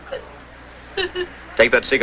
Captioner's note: crying